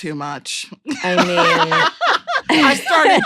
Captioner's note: laughter